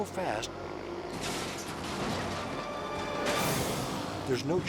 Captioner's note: bikes crashing